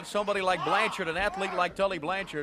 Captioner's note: crowd chatter